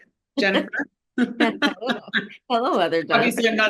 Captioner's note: both laugh